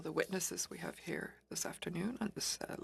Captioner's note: speaking French